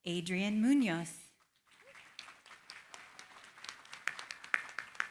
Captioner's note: applause